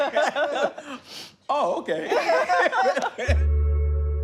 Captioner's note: laughter